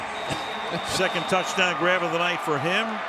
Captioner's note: chuckles